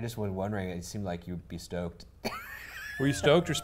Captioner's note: laughs